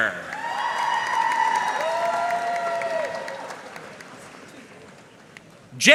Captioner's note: audience cheering and applauding